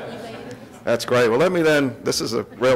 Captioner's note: audience laughs